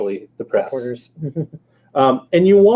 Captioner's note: laughs